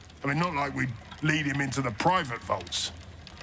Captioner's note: none